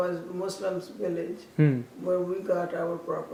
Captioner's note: hmm